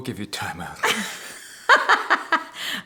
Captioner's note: laughing